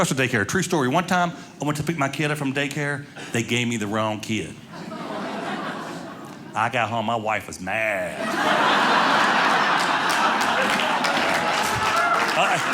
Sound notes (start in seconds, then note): 4.7 audience laughing; 8.1 audience laughing